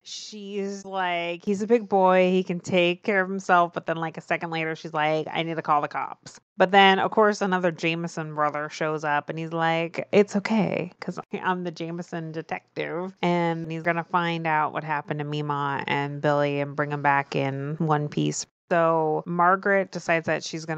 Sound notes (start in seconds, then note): none